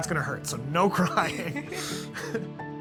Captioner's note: both laughing